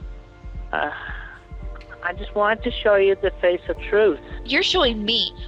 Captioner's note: sigh